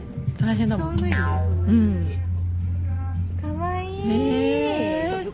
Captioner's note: laughs